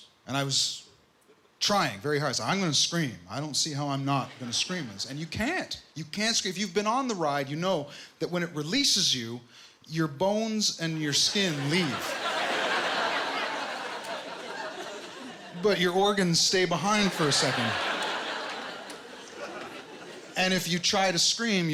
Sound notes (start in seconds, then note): 12.6 laughter